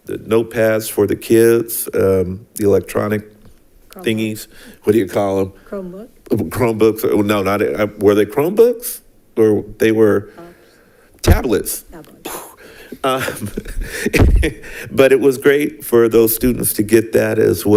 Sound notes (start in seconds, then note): 13.0 laughs